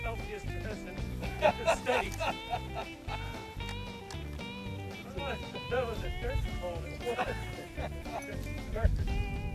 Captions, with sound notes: That's the healthiest medicine in the states. (all laugh) (upbeat country music)